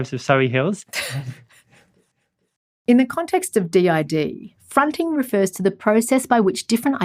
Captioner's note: voiceover